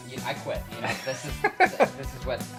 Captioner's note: laughing